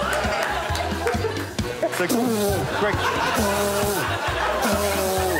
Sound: laughter

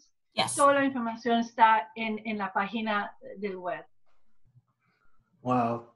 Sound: gives summarization in spanish

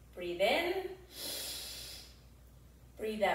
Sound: inhales deeply

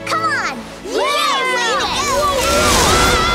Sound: cheering

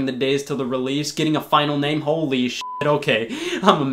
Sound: beep

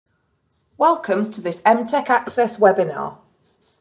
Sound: voiceover

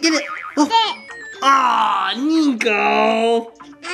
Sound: yells

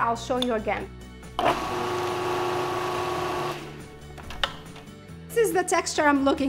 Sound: food processor whirring

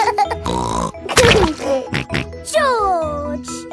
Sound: laughs and snorts

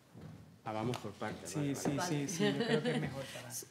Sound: speaking in Spanish; laughs

